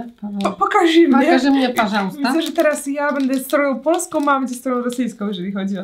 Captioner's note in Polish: rosyjski